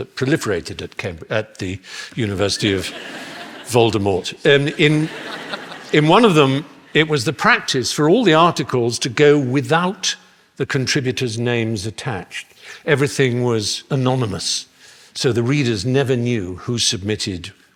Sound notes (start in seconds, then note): 4.6 laughter